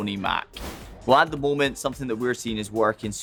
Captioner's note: abrupt swooshing